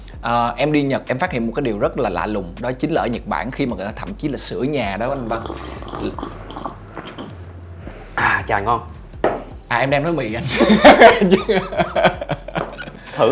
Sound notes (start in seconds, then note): 5.0 slurping sound; 10.4 laugh